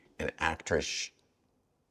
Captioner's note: shushes